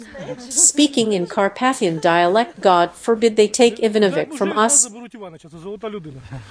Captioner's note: speaking in Carpathian dialect